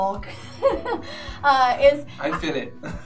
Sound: laughing

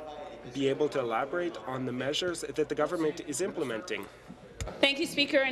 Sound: speaking in French

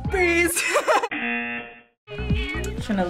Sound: singing along; laughing; buzzer

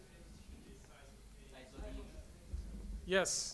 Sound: voiceover

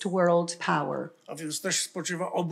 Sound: foreign language

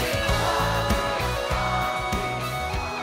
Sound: crowd chanting: " !"

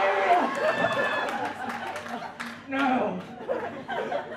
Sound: audience claps

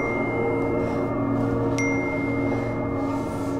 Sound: heavy breathing

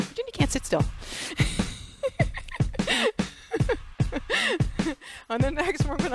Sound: laughs

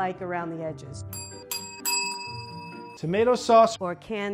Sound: bells ring

